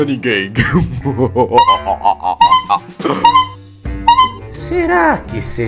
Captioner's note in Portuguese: Risadas acompanhadas de sons de buzina